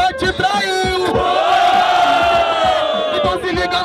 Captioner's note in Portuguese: Grito da plateia